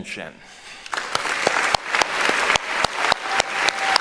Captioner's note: applauding; cheering